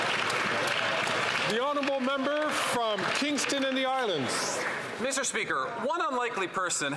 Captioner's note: some Applause